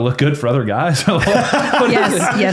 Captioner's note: laughing